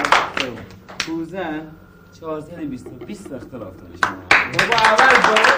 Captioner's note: people applauding; speaking foreign language; people applauding